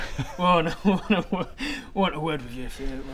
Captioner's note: laughs